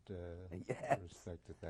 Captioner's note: laughs